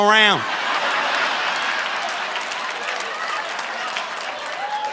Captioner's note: audience laughing